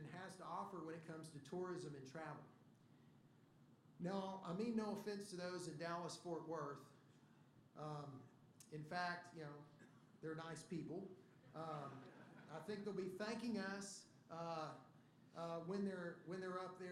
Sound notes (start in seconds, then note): 11.4 laughter